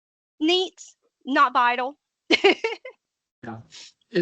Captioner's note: laughing